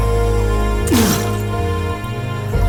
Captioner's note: bottle smashed